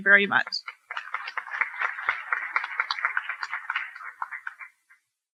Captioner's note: applause